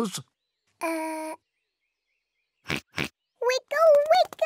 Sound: oinks

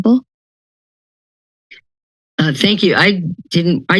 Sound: silence

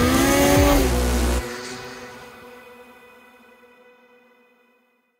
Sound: snowmobile engine revving

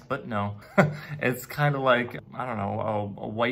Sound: chuckles

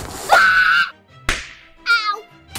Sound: screams; slap

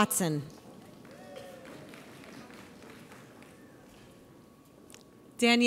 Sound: audience applauds

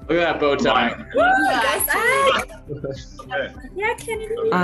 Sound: cheering

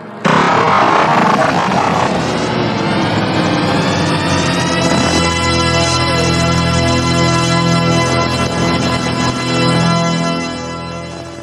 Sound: snort groans and crying

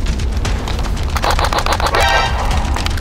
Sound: bang xN

